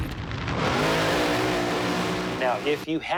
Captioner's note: engine roaring